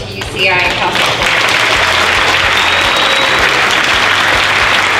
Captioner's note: applause